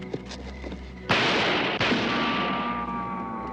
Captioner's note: gun firing